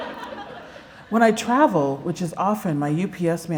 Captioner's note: laughter